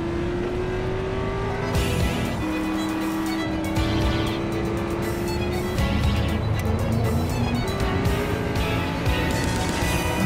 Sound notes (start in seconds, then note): 2.1 engines roaring